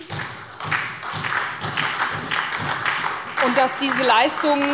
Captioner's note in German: Beifall bei der SPD